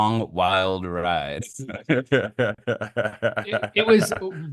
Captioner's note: laughing